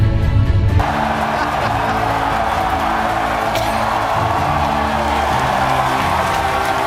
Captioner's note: cheering and some laughing in the background